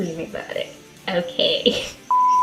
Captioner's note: laughs